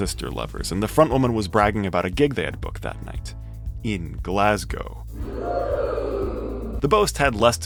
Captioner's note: oooooh